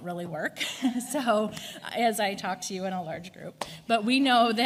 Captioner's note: laughs